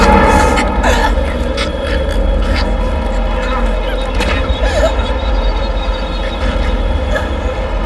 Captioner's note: gagging